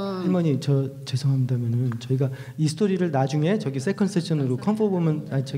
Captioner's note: speaking foreign language